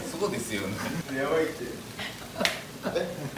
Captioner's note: haha